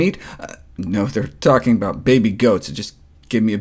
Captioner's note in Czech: v angličtině